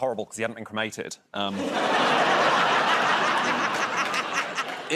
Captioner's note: laughter